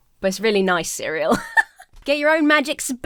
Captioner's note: laughs